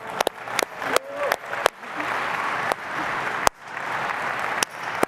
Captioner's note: applause